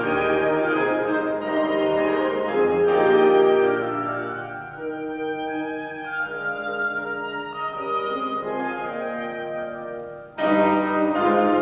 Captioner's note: horn; oboe; bassoon; piano